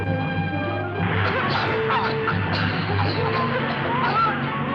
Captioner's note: menacing music; women coughing